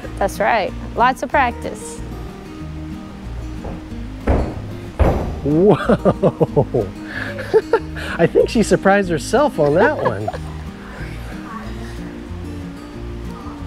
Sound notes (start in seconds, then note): 3.3 footsteps thudding; 5.5 laughs; 9.4 coach laughs